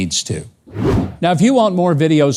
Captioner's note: logo whooshing